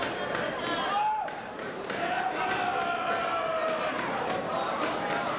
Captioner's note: crowd tapping rhythmically; spectators cheering